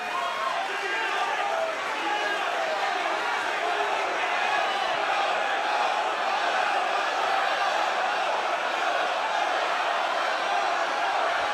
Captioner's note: crowd chatter